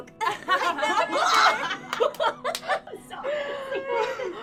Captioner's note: laughing